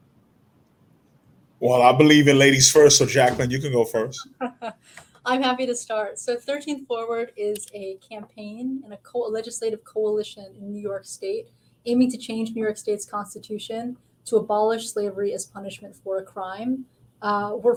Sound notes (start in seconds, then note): 4.6 laughing